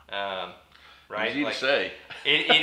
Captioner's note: laughs